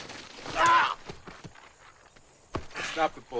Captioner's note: Latrell cries out